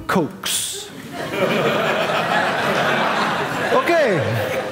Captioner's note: audience laughing